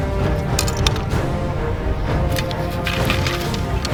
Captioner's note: thrilling music; arrow rattles